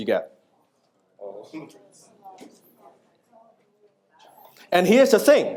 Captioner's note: audience members speaking off microphone